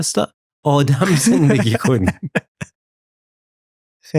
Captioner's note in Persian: خنده